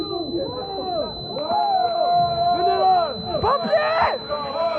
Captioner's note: foreign spoken audio